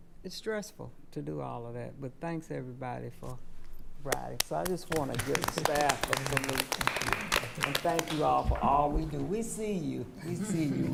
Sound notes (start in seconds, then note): 4.6 applauding; 4.6 attendees applauding